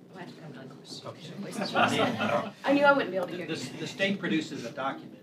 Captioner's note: laughter